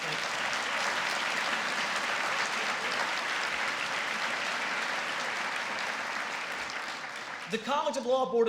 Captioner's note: applause